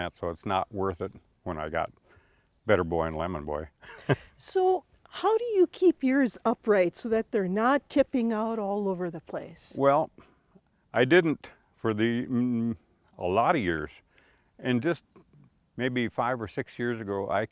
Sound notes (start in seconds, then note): 3.8 chuckles